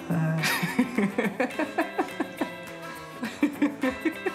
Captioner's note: laughs